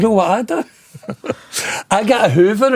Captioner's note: laughing